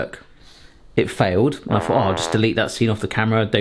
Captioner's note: fail trombone honks